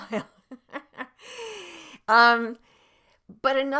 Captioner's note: laughs